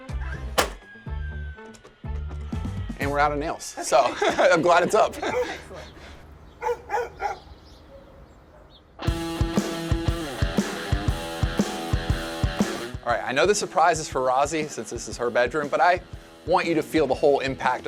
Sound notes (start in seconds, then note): 6.6 dog barking; 9.0 raucous music